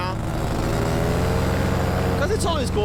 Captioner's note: motor revving